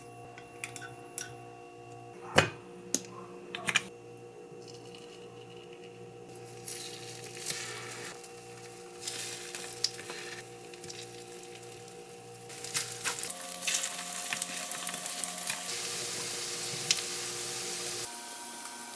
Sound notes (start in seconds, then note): 6.0 sizzle